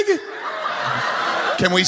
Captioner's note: crowd laughing